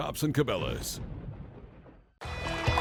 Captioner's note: thunder cracking